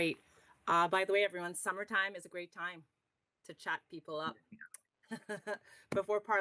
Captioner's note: laughs